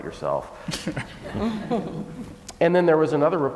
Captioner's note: laughing